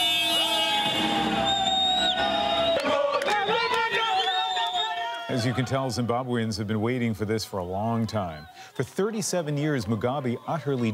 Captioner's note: cheers and Applause